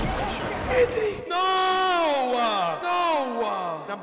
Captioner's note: gasps; yells